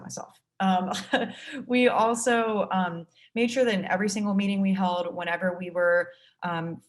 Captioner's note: laugh